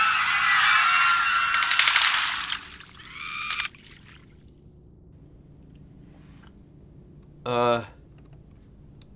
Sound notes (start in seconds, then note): 0.0 screaming; 0.2 clicking; 1.5 water splashing; 2.6 screaming